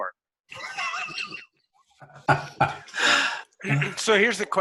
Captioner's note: laughter